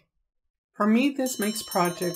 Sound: silence

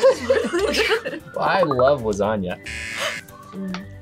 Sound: both laugh; buzzer

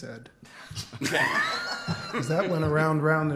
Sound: laughter

